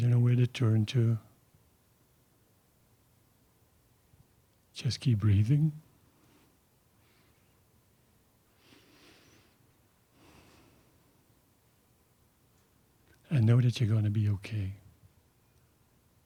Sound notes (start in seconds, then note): 7.8 he pauses